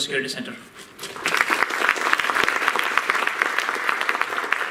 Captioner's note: applause